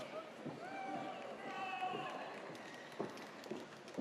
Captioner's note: audience cheers